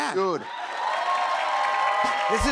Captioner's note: cheers and applause